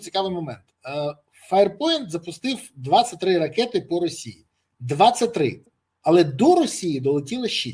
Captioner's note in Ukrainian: none